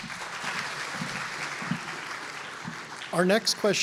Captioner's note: applause